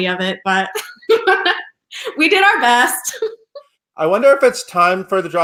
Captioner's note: laughs